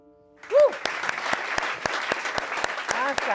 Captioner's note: applause